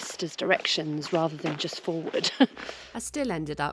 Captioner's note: giggle